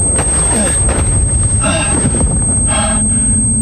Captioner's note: groans